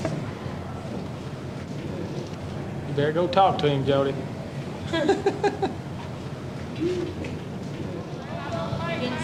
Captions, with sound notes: You better go talk to him, Jody. [chuckles]